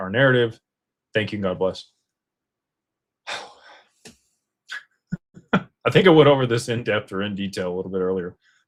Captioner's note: laughter